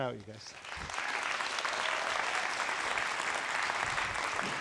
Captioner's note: students applauding